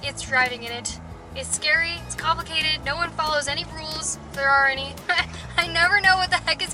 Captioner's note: laughter